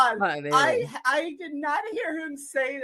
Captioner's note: laughing